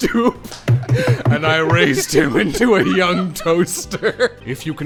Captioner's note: laughter